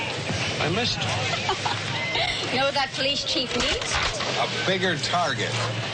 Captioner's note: bang